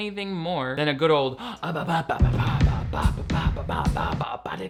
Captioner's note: imitates music; imitates music